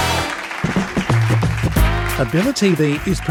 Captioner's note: applause